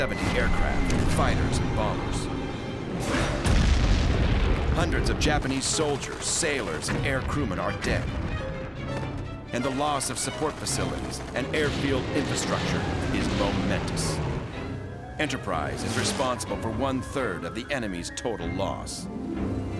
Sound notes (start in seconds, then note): 3.0 explosions